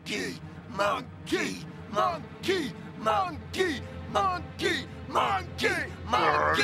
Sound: everyone cheering

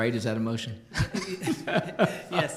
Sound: laughter

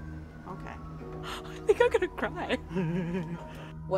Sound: chuckling

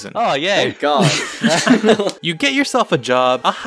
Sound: laugh

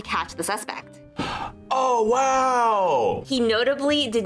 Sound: gasps

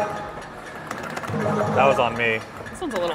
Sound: button thudding; balls beeping; button clicking

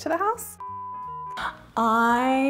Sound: screen beeping

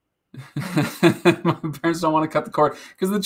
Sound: laughing

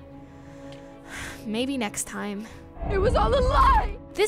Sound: sighs

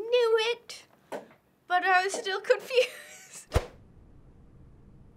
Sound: chuckles

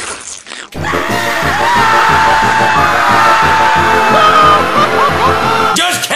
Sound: everyone screaming

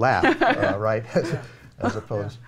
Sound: laughing

